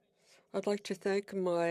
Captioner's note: speaking French